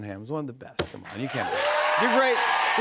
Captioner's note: cheers and applause